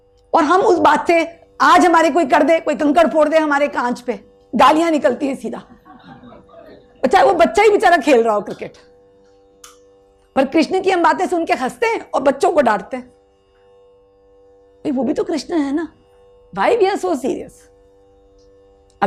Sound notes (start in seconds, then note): 5.7 audience laughs